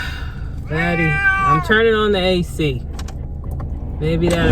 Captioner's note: meow